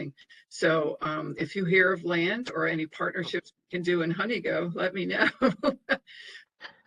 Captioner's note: laughter